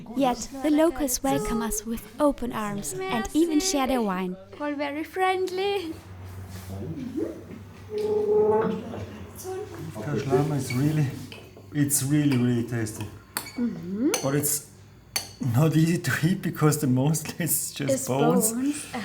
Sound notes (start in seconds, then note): 9.3 in Armenian